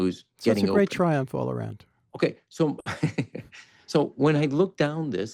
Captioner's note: laughs